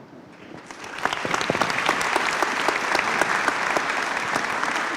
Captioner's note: applause